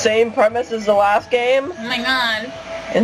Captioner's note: in a nasally voice